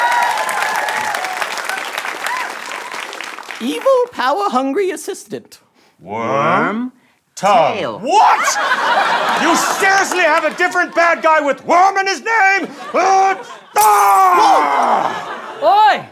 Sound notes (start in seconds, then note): 13.7 glass shatters; 13.8 screams